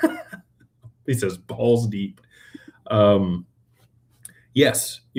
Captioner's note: laughter